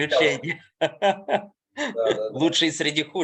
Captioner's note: laughing